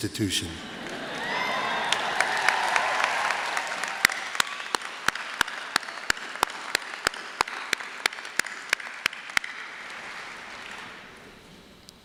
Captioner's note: laughter, applause